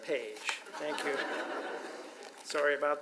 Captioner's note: audience laughs